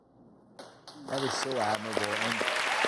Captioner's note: applause